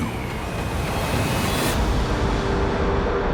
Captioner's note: water rushing